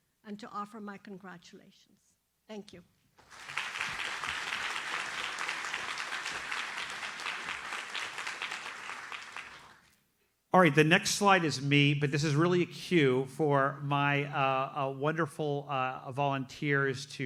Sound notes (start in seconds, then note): 3.2 audience applauds